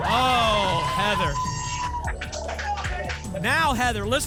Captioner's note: applause and cheering